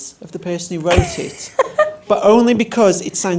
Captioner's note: laughs